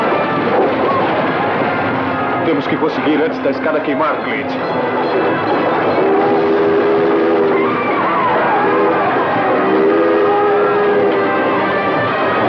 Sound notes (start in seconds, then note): 4.6 train Whistle Blowing